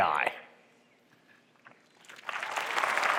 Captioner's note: applause